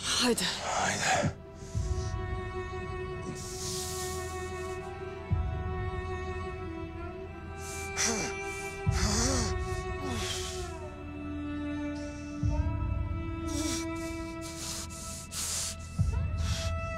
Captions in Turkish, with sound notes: -Hayde. -Hayde. [İnleme]